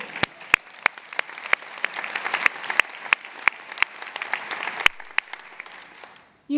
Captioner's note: applause